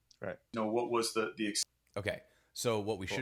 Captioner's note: podcast snippet plays